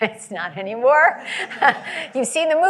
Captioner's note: laughter